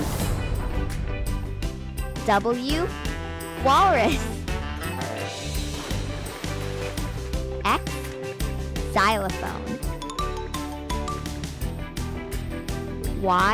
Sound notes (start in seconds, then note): 0.0 volcano erupts; 4.7 splashing sound; 10.2 upbeat music